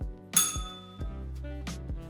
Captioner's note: bell rings